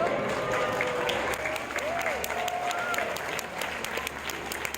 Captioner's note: people applauding and cheering